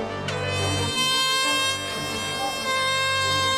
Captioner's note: klaxon sounds